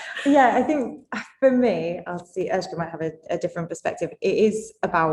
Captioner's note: laughs